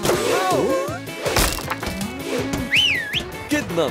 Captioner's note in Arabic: صوت الاصطدام بالباب; صوت صفير "هامبل"